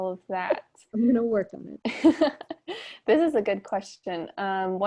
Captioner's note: chuckles